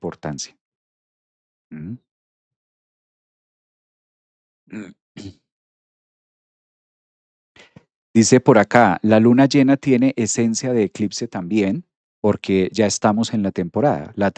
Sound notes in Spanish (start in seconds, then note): 4.7 carraspeo